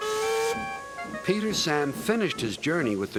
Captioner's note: toots horn